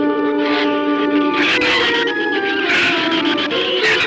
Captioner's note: shrews chatter